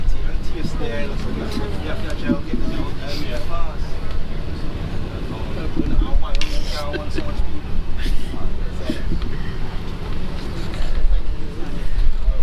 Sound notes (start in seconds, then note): 5.2 laughs